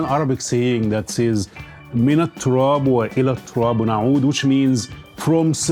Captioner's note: speaking in Arabic